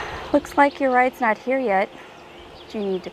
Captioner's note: birds tweeting; sighs